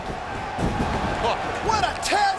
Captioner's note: bodies slamming